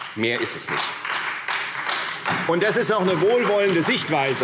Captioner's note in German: Beifall Freie Demokraten, DIE LINKE und vereinzelt SPD